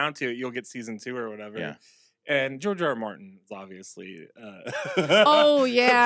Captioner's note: laughs